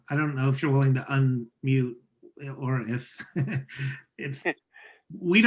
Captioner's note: laughs